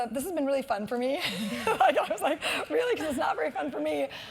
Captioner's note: laugh